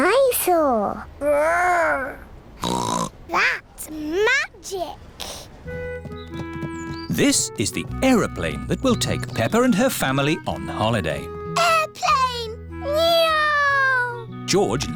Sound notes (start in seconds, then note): 2.6 snorts